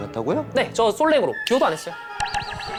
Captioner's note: confident